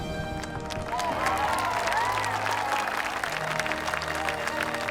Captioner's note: crowd cheering; soaring uplifting music